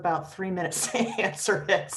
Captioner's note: laughs